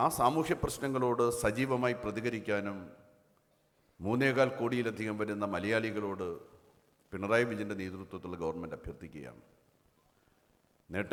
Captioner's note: Speaks in Malayalam – not transcribed